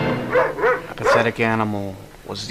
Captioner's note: dog barking